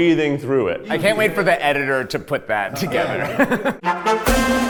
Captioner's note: laughs; exciting music